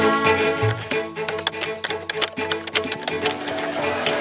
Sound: keyboard typing

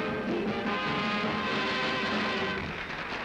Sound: applause

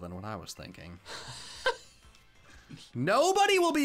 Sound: laughs

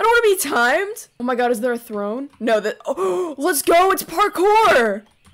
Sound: gasp

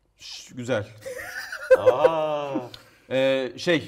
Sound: laugh

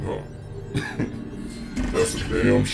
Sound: laughing

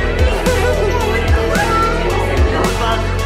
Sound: chuckling

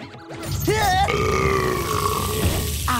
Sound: burping

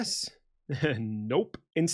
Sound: laughs

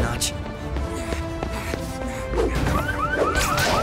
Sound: labored breathing; car alarm

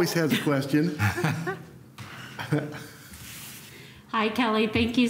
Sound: laughter

